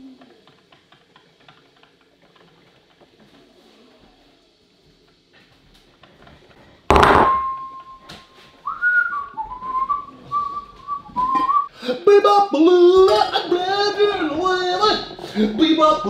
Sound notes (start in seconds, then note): 8.6 whistling